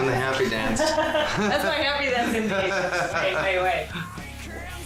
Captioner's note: laughing